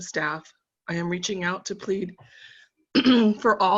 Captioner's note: coughing